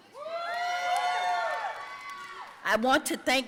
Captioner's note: audience cheering and applauding